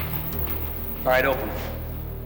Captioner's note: elevator bell dings